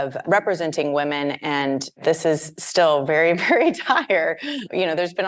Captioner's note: laughs